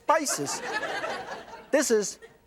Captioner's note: laughter